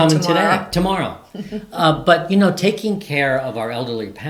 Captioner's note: chuckles